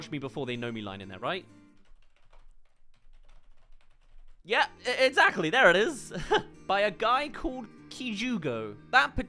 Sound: typing

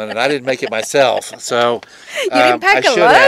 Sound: laughing

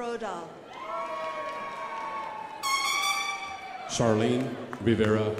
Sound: crowd applauding

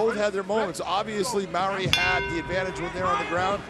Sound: bell rings

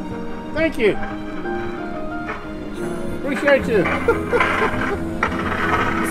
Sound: car engines

